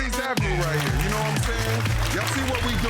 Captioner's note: crowd applauding